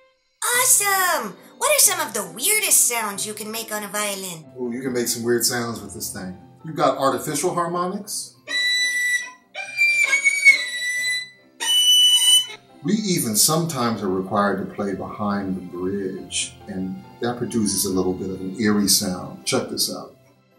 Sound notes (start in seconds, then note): 11.6 demonstrates eerie high pitched sounds